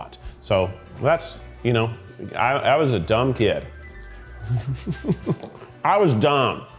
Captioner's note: chuckles